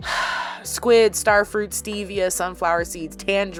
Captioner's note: BIG sigh